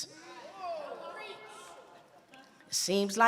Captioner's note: audience murmuring